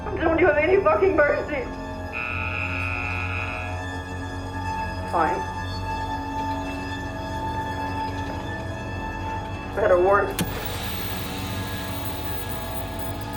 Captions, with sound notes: Don't you have any fucking mercy? (horn blaring) Fine. This better work (static buzzing)